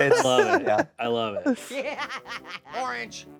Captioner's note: Annoying Orange laughing